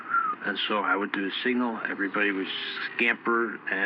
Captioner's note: the guy whistles a little to demonstrate